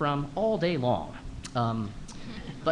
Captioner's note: laughter